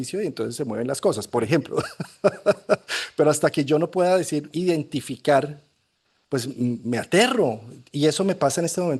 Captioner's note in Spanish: risas